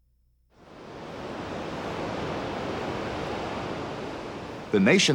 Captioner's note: waves Rushing